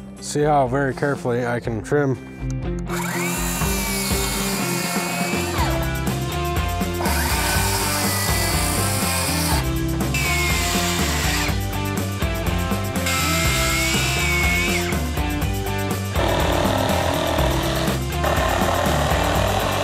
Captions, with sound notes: and see how very carefully I can trim. (upbeat music) (grinder grinding)